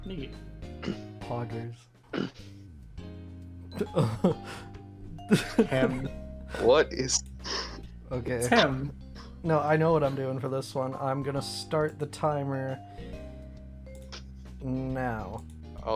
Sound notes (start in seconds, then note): 2.1 clears throat; 5.2 laughter